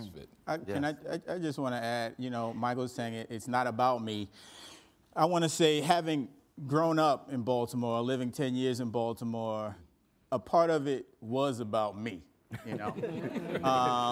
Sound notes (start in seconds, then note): 12.6 all laughing